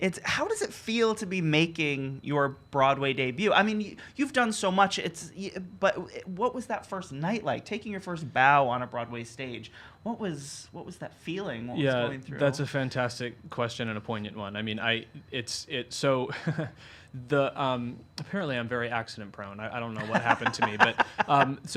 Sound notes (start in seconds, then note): 16.2 chuckles; 20.0 laughing